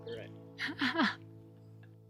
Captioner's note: chuckles